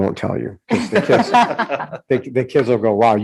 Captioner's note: group laughing